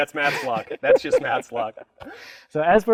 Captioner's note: laughing